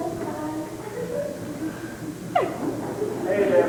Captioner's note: laughter